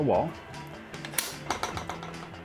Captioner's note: metal clanking